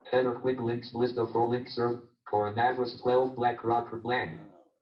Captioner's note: JAWS speaking disjointedly